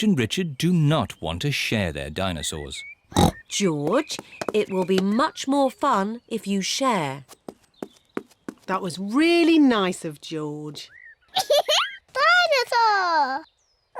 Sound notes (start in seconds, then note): 3.1 oinks; 11.3 giggles